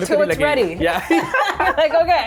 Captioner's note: both laugh